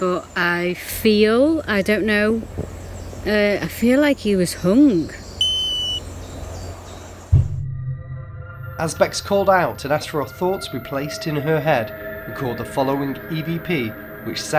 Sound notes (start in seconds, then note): 5.2 beeping; 5.3 birds chirping; 7.3 suspense music